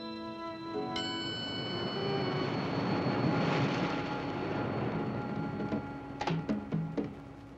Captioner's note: waves crashing; drum music